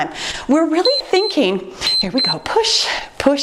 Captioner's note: timer beeps